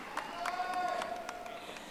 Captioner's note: audience applauding